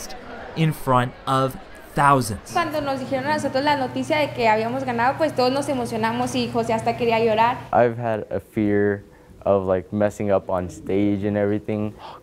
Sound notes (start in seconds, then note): 1.4 Spanish